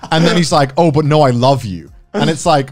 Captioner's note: laughs